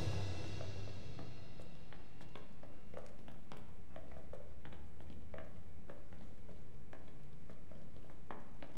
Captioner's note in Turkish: Ayak sesleri